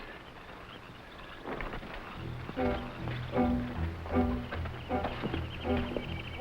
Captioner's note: jungle animals chattering; tense music